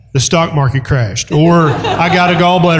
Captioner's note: laughter